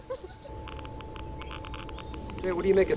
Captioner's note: monitor clicking